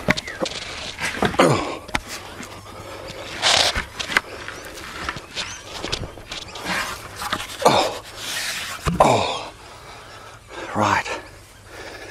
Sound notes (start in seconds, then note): 1.2 grunting; 9.0 grunting